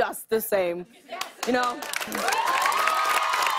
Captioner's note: cheers and applause